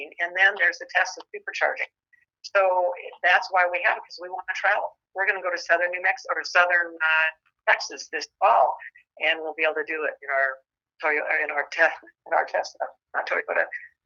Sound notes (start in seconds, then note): none